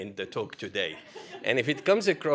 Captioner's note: laughter